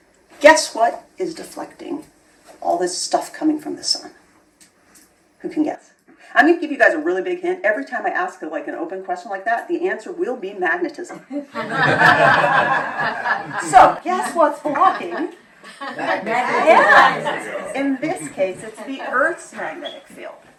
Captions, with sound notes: Guess what is deflecting all this stuff coming from the sun? Who can guess? I'm going to give you guys a really big hint. Every time I ask, like, an open question like that, the answer will be magnetism. [laughter] [laughter] So guess what's blocking? Yah! In this case, it's the Earth's magnetic field.